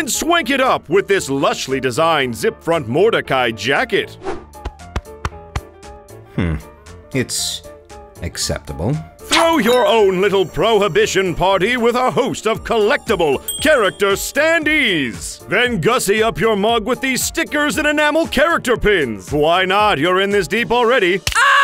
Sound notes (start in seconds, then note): 4.3 pat pat pat